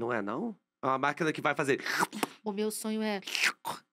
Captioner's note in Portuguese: som de sucção